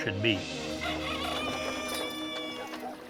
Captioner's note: rooster crowing